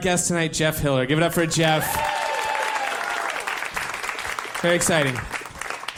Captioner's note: applause, cheering